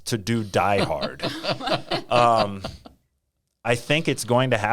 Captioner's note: laughing